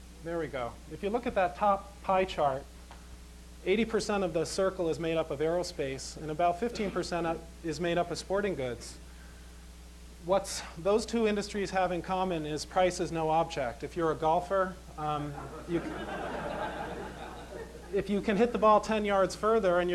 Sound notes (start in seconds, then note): 15.3 laughter